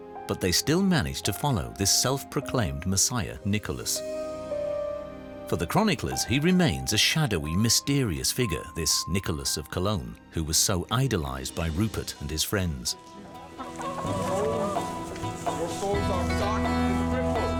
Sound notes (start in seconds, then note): 13.7 hen squawking